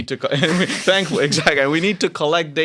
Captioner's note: laughter